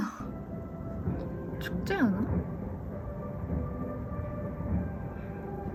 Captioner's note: sounds like marching